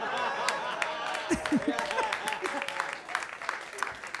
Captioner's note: audience laughing and clapping; laughs; audience clapping